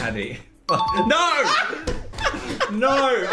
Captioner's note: ding-ding; laughing